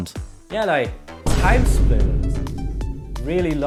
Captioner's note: Vine boom sound